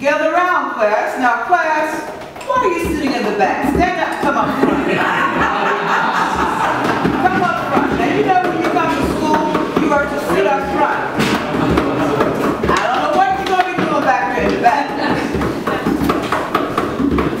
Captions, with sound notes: - Gather round class, now class, why are you sitting in the back? Step up, come on. (laughter from the Class) Come up front. You know when you come to school you learn to sit up front. I don't don't know what you're gonna be doing back there. (drumming)